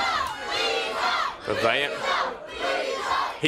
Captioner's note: crowd cheering